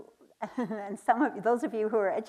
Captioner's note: chuckles